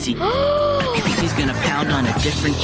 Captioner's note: student gasps